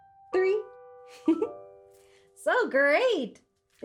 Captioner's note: giggles